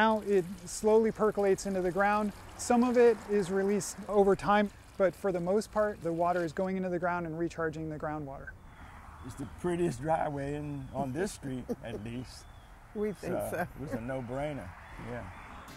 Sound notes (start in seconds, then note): 11.4 laughs